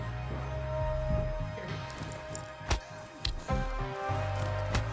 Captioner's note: scary Music; punches and rusteling